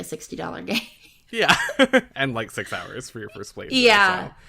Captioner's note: laughs; laughs